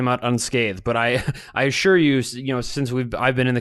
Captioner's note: chuckles